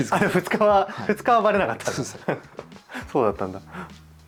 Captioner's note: laughs